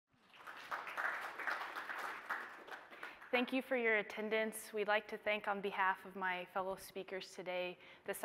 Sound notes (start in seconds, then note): 0.1 audience applauding